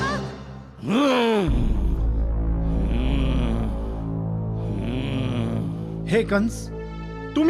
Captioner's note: grunts